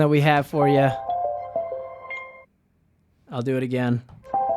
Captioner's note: gentle chiming sound